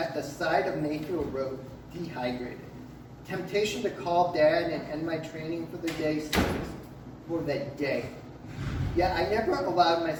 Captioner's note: click of door closing behind